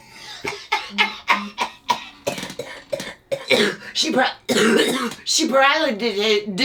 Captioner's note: laughs, coughs